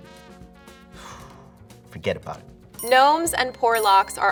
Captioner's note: blows